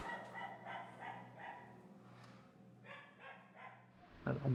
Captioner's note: dogs barking in the distance